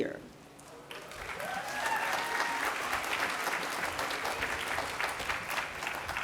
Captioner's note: applause